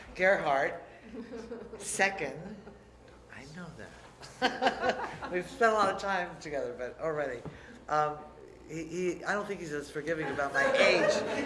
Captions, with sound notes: Garret Hart, second. I know that. (laughter) We've spent a lot of time together, but, already. I don't think he's as forgiving about my age.